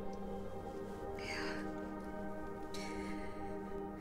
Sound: long sigh

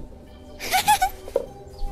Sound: chuckles

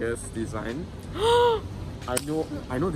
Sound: gasps

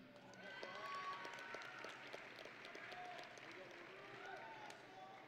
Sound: audience and graduates cheering

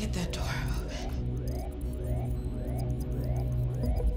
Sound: alarm blaring; intense music; computer trilling

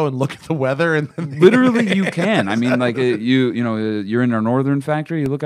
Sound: laughs

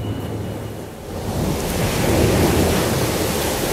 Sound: crashing Tsunami Waves

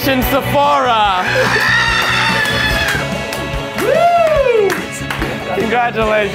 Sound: screaming and applause

